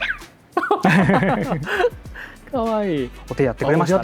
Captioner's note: laughs